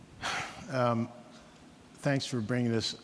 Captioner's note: sighs